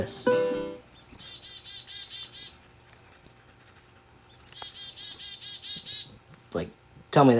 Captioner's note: bird Call x2